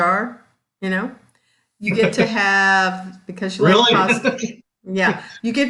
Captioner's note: laughs